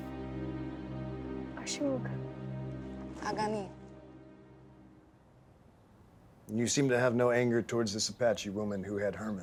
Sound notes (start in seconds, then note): 1.7 responds in native language; 3.7 speaking native language